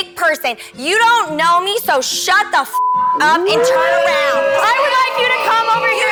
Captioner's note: beep